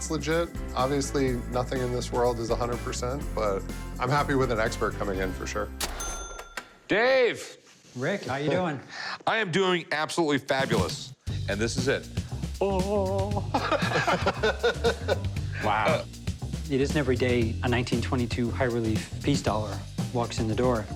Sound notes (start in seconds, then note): 13.2 laughter